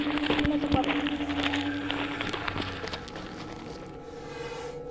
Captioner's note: low growling